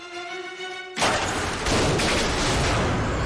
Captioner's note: gunshots